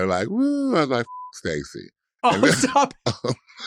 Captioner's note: beeps